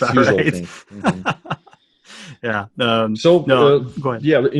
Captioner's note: laughs